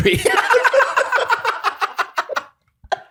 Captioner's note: laughter